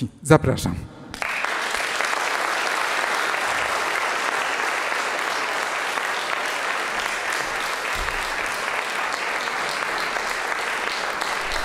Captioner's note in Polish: aplauz